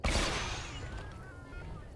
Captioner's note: gun firing